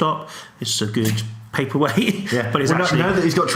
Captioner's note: chuckles